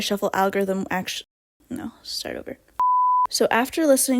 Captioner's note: quietly